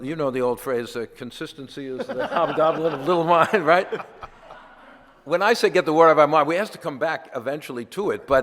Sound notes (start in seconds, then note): 4.2 audience laughter